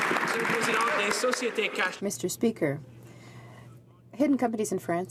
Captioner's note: some Applause